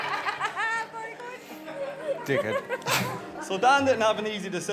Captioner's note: guests laughing; laughing